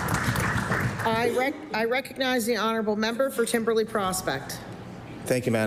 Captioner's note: applause